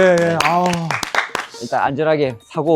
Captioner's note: applause